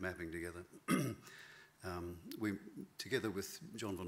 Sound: clears throat

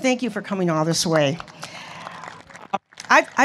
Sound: applause

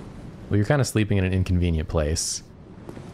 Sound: none

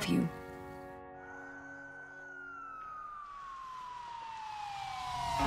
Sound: sirens blaring

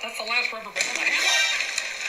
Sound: bonk; fart; shocked sound effects

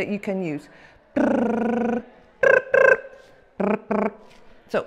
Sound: lip tremble sound

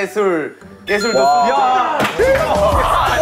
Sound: ding dong

